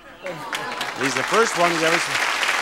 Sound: audience clapping

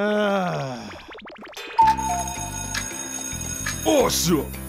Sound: clock ticking, bell ringing

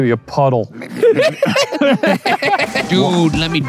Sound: laughing

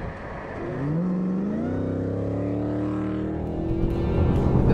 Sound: car engine roaring

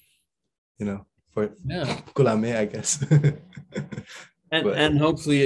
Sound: he chuckles

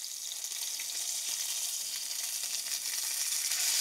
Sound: sizzling

